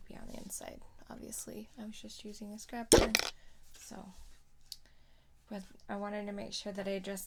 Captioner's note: clank